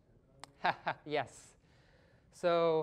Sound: laughing

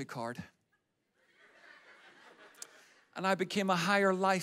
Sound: audience laughs

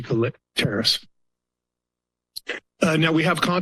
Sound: pause

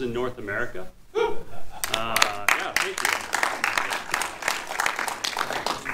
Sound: audience applauding

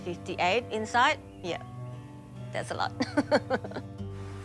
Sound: laughs

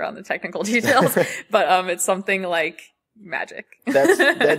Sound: laughs

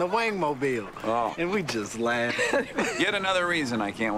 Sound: laughs

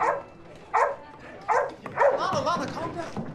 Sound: Lana barks

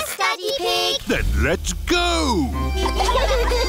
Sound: giggling

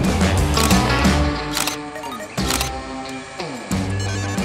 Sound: camera shutter

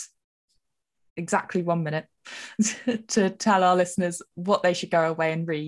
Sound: laughs

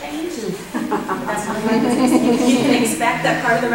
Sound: audience laughter

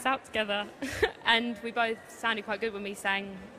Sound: laughs

